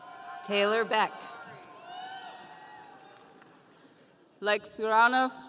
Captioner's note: audience cheering